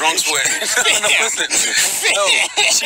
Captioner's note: laughter